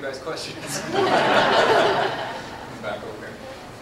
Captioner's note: laughter